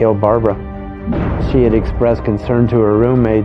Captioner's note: gunfire blasting